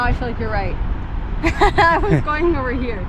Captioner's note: laughs